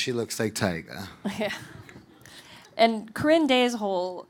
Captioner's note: audience laughing